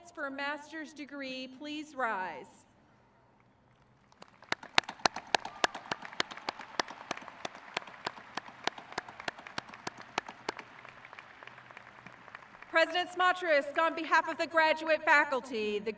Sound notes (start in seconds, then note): 4.4 crowd clapping